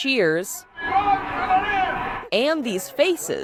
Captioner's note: baseball game on TV